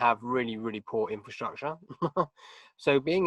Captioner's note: chuckling